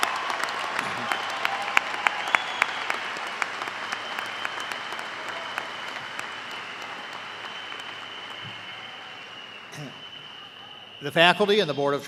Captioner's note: cheers and applause